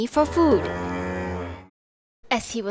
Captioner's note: cow mooing